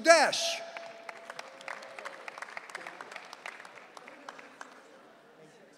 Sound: audience cheering

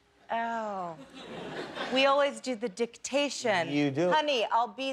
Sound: laughter

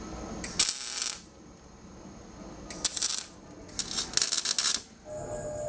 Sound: welding electrode sparking

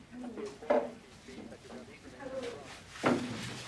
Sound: quiet chatter

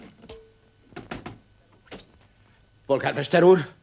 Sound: knocking

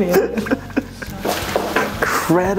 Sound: laughing

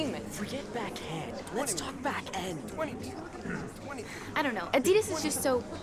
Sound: background chatter

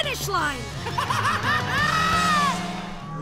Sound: laughing

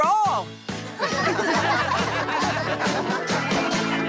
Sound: all Laughing

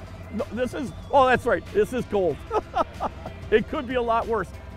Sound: laughs

